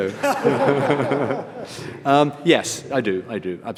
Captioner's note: audience laughs